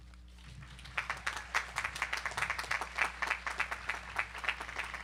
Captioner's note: audience applauding